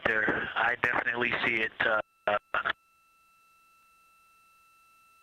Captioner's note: silence